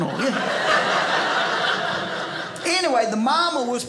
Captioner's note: audience laughing